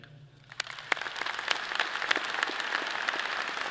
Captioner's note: all clapping